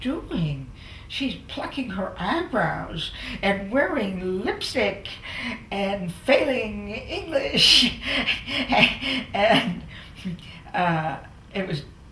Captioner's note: laughter